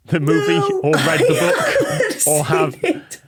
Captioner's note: laughs